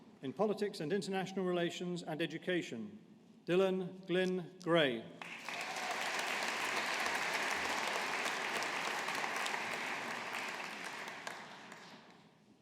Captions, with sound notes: In Politics and International Relations and Education, Dylan Glynne Gray. (AUDIENCE APPLAUDING)